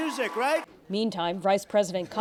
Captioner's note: cheering